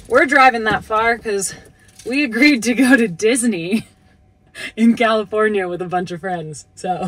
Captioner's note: laughing